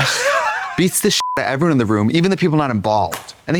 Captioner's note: beep